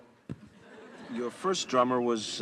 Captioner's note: audience laugh